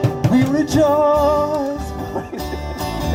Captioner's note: laughs